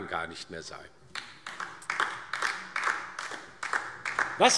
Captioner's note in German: Beifall DIE LINKE